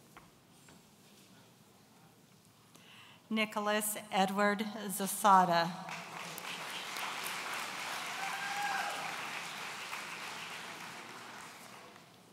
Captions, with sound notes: Nikolas Edward Zasada. (audience cheering)